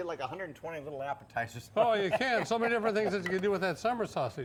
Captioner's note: laughs